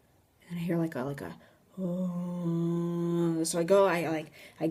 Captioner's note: groaning